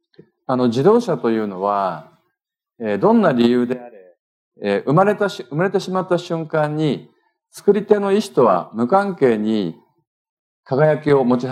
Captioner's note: speaking japanese